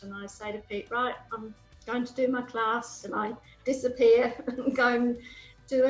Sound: laughs

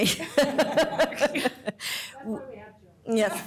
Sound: laughter

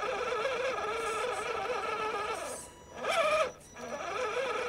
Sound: engine whining

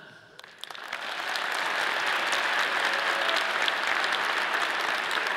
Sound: audience applauding

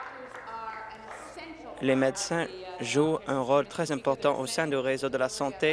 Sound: applause

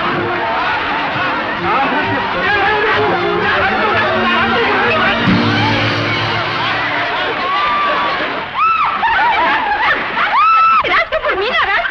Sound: muffled shouts and exclamations continue

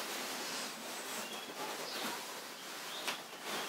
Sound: dress rustles

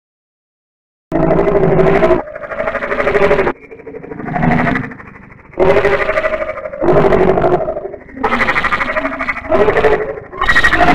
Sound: sound of monster

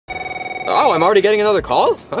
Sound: phone ringing

